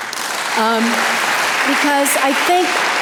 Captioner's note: audience applause